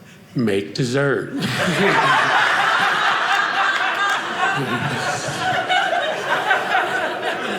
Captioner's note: audience laughing